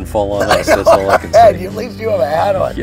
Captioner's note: laughs